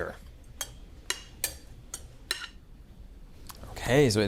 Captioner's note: spoon clinking